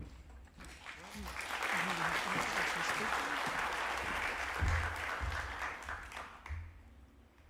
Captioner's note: applause